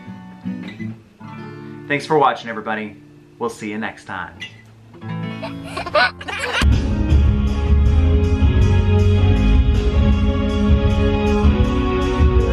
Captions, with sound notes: Thanks for watching everybody. We'll see you next time. (baby giggling) (dramatic music)